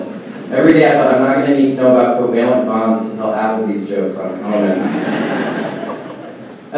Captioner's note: laughing